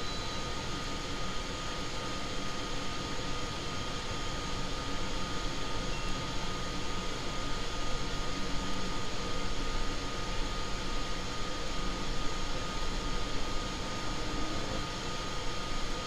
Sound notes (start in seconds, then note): none